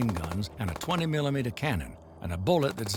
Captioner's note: gunshots firing